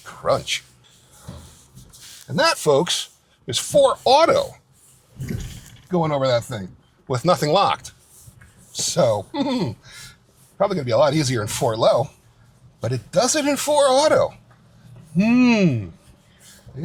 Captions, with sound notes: Crunch. And that folks is four auto going over that thing with nothing locked. So (chuckles) probably gonna be a lot easier in four low, but it does it in four auto. Hmm.